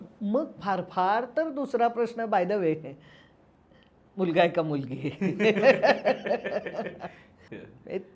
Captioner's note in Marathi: हास्य